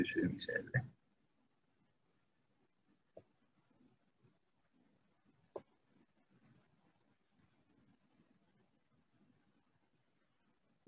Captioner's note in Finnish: hiljaisuus